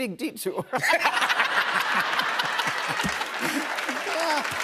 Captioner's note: laughter